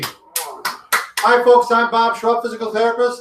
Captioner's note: claps